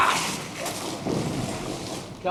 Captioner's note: thud